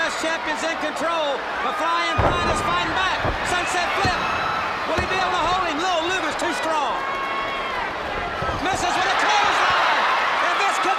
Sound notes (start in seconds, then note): 7.4 crowd chatter